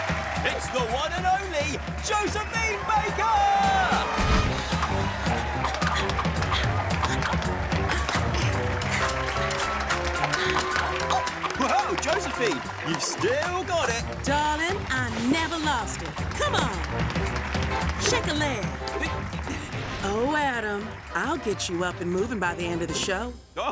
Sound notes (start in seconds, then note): 3.6 applause; 4.9 rhythmic music